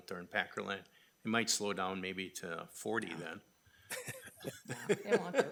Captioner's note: chuckles